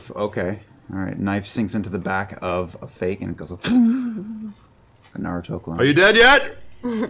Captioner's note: poof